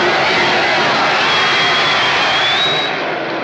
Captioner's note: cheering and whistling; people chattering indistinctly